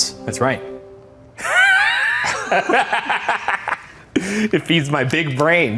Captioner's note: both laughing